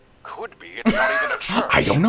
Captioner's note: laughs